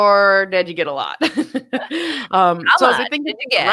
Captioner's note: laughing